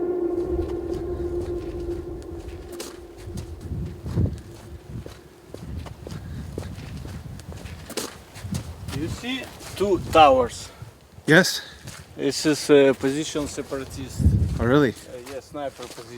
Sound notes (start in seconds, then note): 1.1 footsteps on muddy road